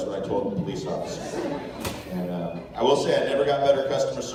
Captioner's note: laughter